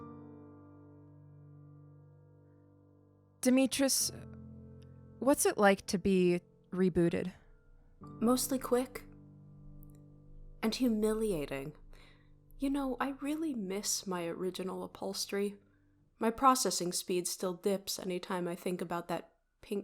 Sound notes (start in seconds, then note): 0.6 pause